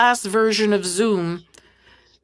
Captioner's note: speaking French